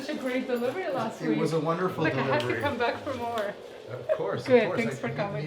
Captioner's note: laughter